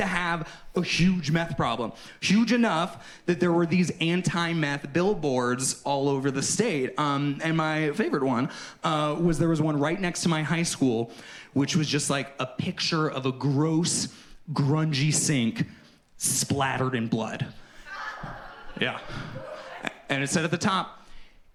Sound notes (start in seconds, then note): 17.7 audience responds